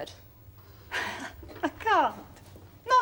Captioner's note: JACKIE, giggling